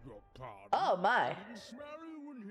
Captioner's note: surprised